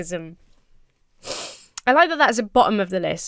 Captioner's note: inhales sharply